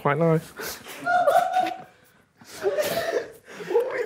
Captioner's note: group laughing